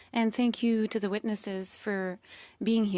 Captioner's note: speaking French